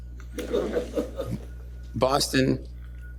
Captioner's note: laughter